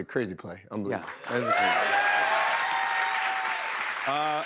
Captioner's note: cheers and applause